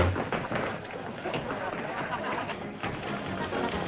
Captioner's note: people chattering